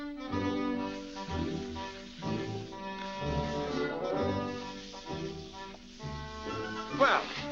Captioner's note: wet scrubbing sounds